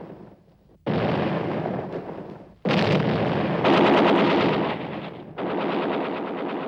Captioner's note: explosions; gunfire